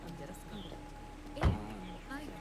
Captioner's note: doors shut close